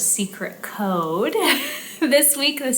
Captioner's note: chuckles